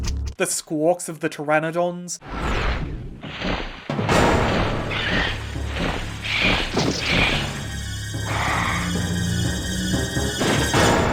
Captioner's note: Compy sound design medley; pteranodon sound design medley